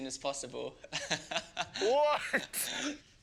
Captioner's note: laughing